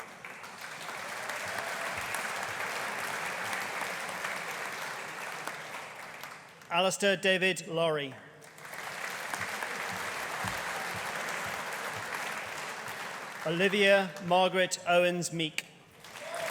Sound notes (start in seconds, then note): 0.0 audience applauding; 8.4 audience applauding